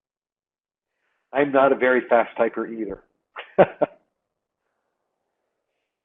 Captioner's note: chuckles